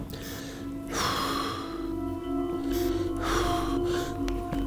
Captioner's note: heavy breathing